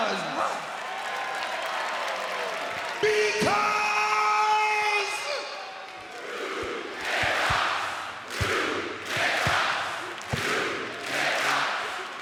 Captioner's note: applause